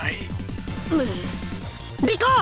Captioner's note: grumble